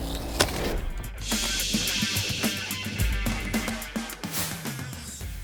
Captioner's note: case hissing